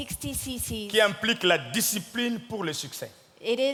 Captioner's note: speaking in French